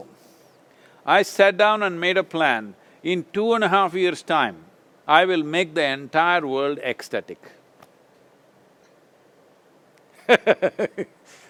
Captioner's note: laughs